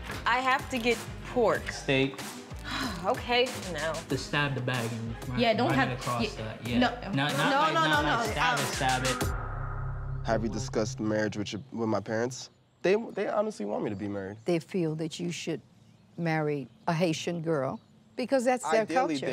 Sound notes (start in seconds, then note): 2.6 sighs